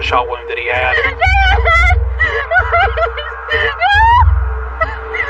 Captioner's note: sobng